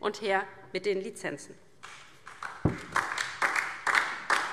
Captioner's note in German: Beifall DIE LINKE